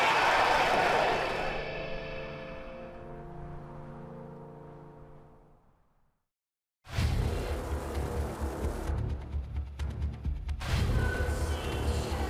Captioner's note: fans chanting; cheers and applause